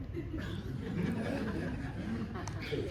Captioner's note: audience laughing